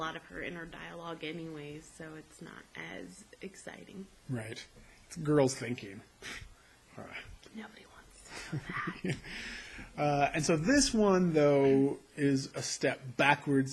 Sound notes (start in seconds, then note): 6.9 scoffs; 8.3 laughs